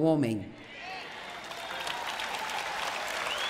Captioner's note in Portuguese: plateia aplaudindo